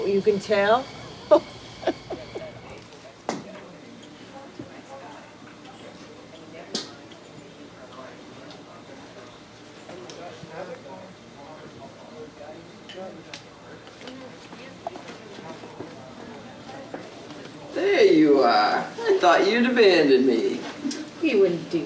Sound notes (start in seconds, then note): 1.2 laughs; 3.6 people chattering